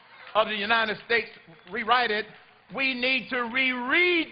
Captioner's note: applause